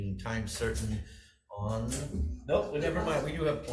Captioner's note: door clunks